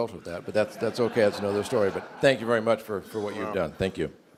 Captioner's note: laughter